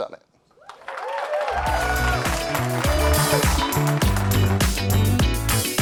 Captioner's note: audience cheers and applauds